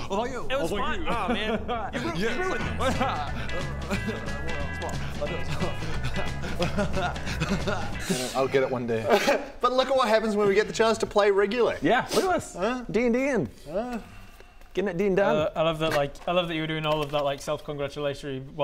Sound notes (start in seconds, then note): 3.3 upbeat music; 5.6 chuckles in smug